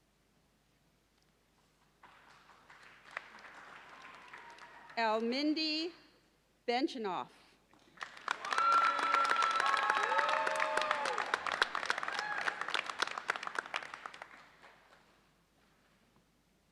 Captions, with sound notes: (audience applauds) El Mehdi Benchannouf. (audience cheers and applauds)